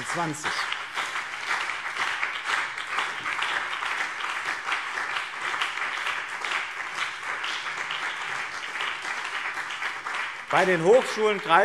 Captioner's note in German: Beifall BÜNDNIS 90/DIE GRÜNEN und CDU